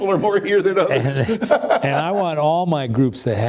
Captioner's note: laughs